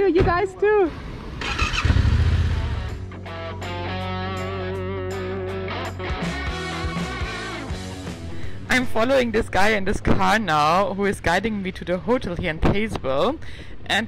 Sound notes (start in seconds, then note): 1.0 motorbike starting; 3.5 upbeat music